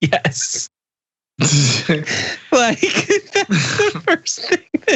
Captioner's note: laugh